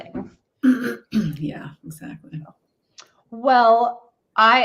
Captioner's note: clears throat